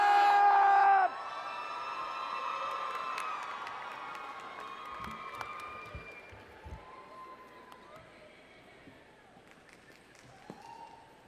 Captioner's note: cheering